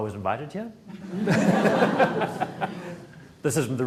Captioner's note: audience laughs